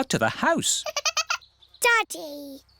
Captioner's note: giggling